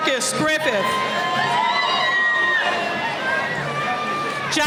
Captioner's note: cheering